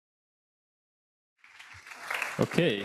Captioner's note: audience applauds